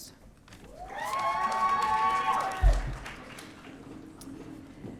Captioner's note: audience cheering